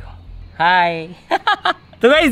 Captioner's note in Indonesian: Tertawa